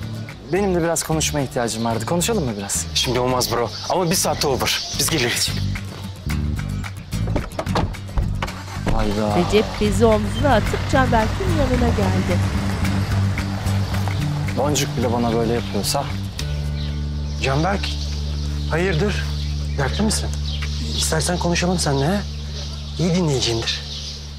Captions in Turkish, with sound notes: Benim de biraz konuşmaya ihtiyacım vardı, konuşalım mı biraz? Şimdi olmaz bro ama bir saate olur. Biz geliriz. (Kapı açılma sesi) Hayda. (Araba sesi) Boncuk bile bana böyle yapıyorsa... Canberk, hayırdır, dertli misin? İstersen konuşalım seninle ha? İyi dinleyiciyimdir.